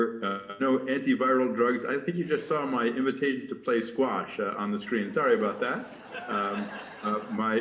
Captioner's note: laughter